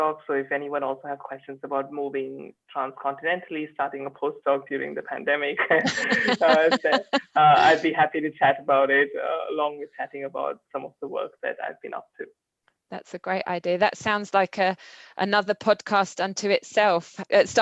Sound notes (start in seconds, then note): 5.5 laugh